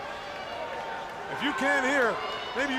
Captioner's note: crowd chatter